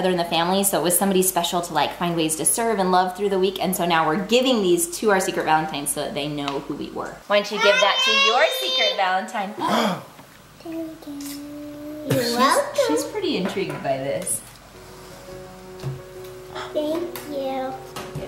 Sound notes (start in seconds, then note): 9.6 parents gasps; 14.8 gentle music